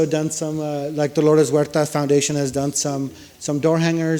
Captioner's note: speaks foreign language